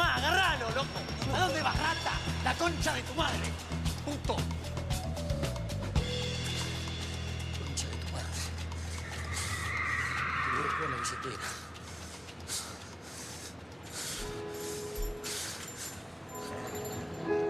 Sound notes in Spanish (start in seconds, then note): 7.4 murmura; 8.8 llantas chirrían; 12.3 respira agitado